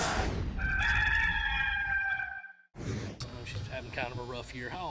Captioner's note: rooster crowing